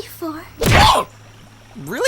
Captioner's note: the sound of pain. pure, unadulterated pain